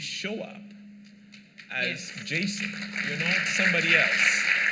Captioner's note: applause